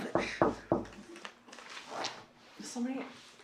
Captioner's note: knock taps